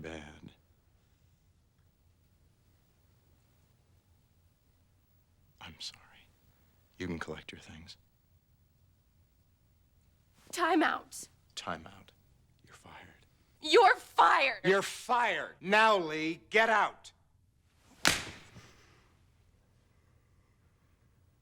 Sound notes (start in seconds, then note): 17.9 smack